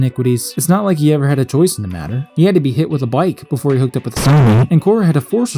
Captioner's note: distorted